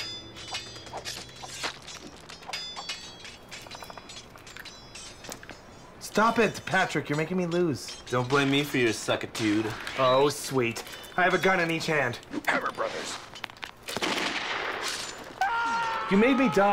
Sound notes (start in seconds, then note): 13.1 sword Slash and Screaming